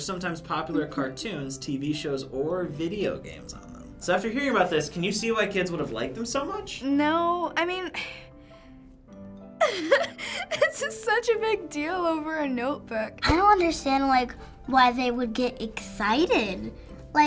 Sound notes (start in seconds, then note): 9.6 giggling